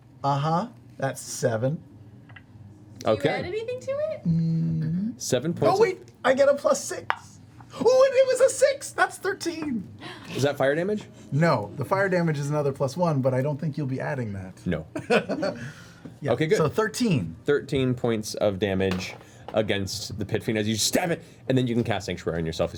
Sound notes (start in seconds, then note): 16.0 laughs